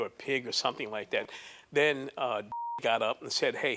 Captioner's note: beep